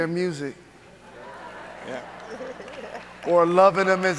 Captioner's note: audience laughing